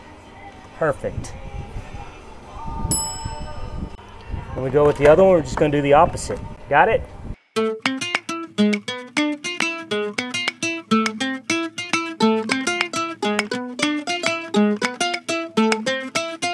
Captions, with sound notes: Perfect. (bell ringing) Let me go with the other one. We're just gonna do the opposite. Got it? (upbeat Spanish music)